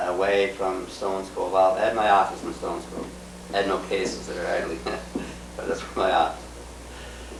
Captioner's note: laughs